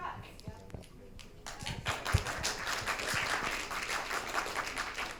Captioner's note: audience applauding